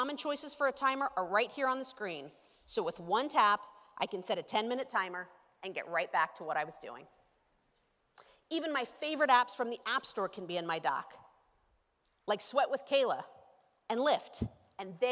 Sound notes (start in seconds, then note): none